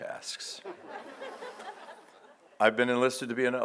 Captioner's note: audience laughs